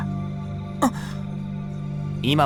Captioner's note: gasp